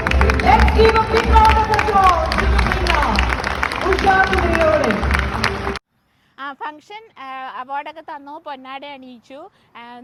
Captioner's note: cheers